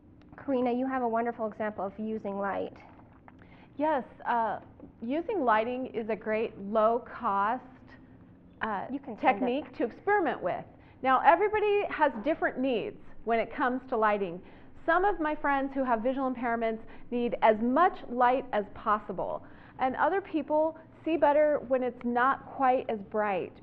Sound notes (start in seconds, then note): 8.7 whispered